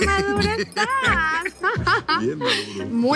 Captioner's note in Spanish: Risas